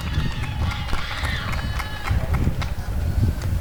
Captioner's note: applause and cheering